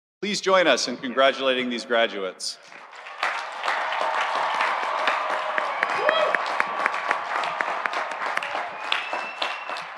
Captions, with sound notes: - Please join us in congratulating these graduates. (audience cheering) (audience applauding)